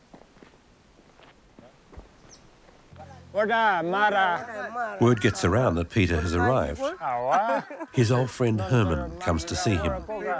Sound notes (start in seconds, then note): 3.2 speaking foreign language